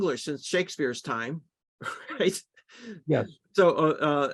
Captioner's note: laughter